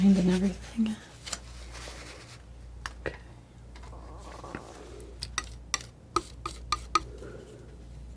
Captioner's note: tapping